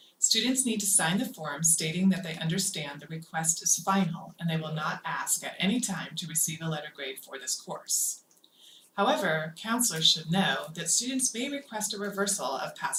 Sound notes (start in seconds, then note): none